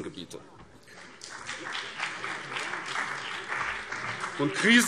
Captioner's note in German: Beifall BÜNDNIS 90/DIE GRÜNEN